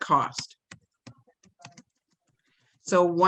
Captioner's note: keyboard keys clatter